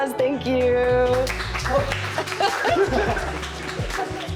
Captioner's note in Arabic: يصفق الجميع